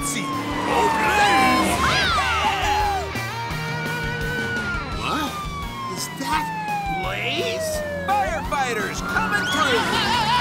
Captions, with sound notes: - Go, Blaze! - Yeehaw! [siren blaring] Wha? Is that Blaze? Firefighters coming through!